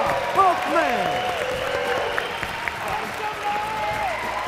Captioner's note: applause